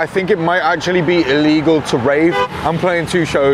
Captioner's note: car honks